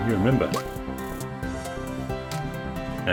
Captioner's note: pop!